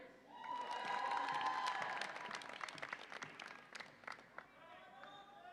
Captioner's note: audience applauds and cheers